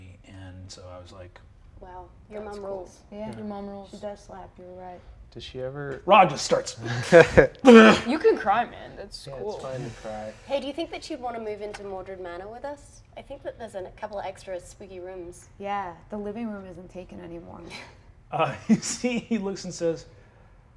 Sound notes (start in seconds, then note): 6.8 sobs; 17.6 chuckles